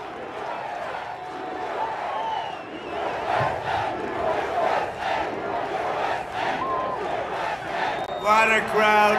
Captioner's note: audience chanting